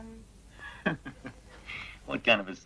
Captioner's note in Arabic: يضحك